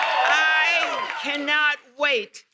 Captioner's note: cheers and applause